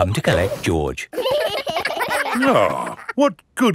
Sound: giggling

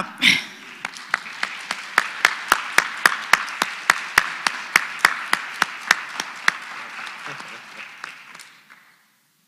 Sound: applause

